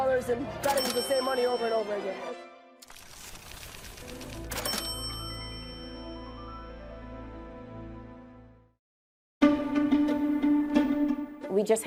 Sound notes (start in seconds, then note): 4.5 registry ringing; 4.6 dramatic music continues; 9.6 suspenseful music